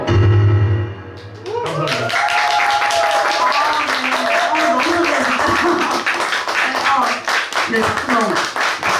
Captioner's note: applause